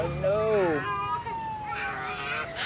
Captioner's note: siren blaring; crying